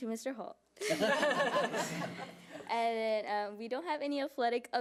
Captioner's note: audience laughing